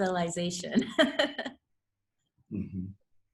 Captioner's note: laughs